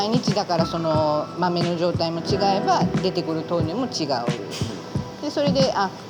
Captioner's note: continues speaking Japanese